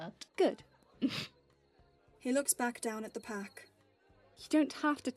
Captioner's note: he snorts